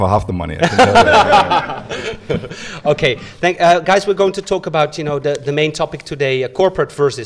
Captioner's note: laughs